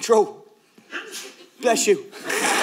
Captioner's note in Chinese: 观众打喷嚏